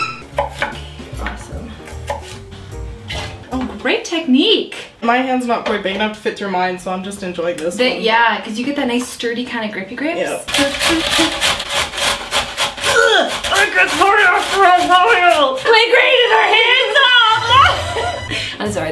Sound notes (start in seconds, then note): 0.0 violin screeches; 10.4 beets grate; 12.9 grunts; 15.6 laughs